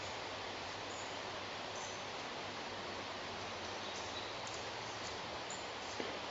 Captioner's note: white noise crackling; soft knocks thudding